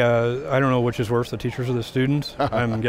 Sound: laughs

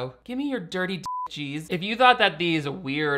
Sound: beep

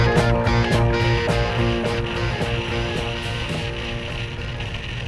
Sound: wind rustling

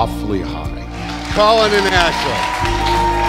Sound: cheers

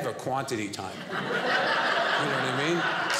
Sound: audience laughing

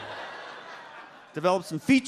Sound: audience laughs

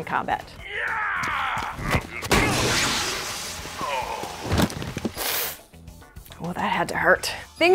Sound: groan; smash; thump; yell

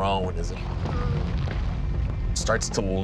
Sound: flames rumbling; groaning

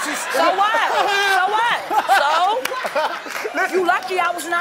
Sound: laughing

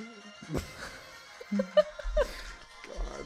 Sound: soft laughter

